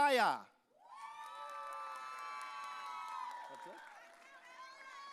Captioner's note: audience cheering